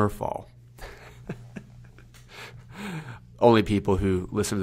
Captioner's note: laughs